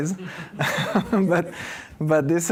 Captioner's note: laughter